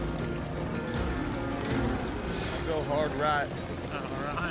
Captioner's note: mooing